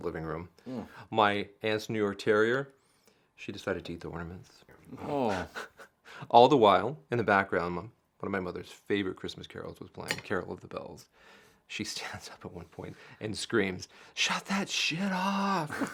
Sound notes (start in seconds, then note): 5.0 Michael chuckles